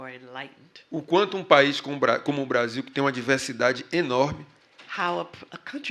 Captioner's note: speaking portuguese